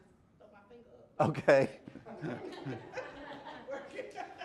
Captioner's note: laughter